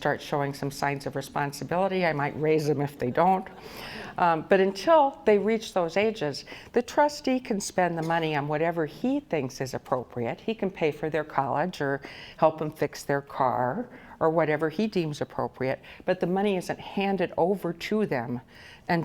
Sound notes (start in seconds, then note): 3.5 audience laughs